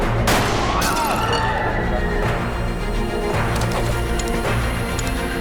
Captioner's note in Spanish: Disparo; Gritos